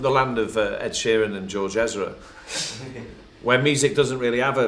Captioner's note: laughter